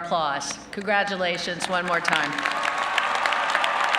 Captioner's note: applause